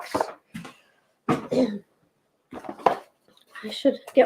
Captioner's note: clearing throat